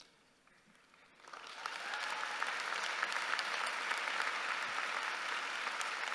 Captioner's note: audience applauding